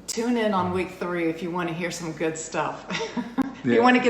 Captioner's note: laughs